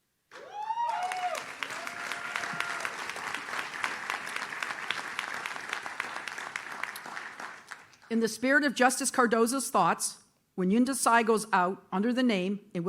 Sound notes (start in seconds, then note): 0.3 audience cheers